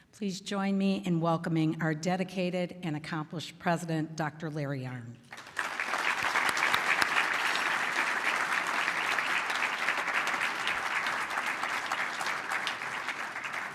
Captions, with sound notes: Please join me in welcoming our dedicated and accomplished president, Dr. Larry Arnn. [APPLAUSE]